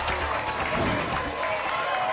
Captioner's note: whoosh; applause and cheering cont